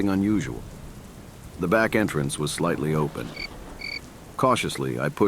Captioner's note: cricket